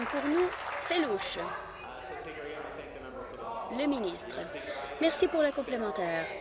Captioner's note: applause